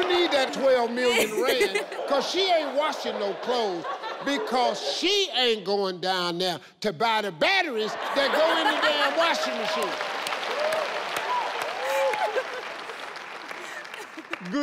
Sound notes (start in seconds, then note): 10.4 crowd cheering; 13.4 laughing